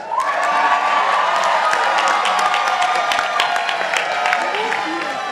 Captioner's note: participants applauding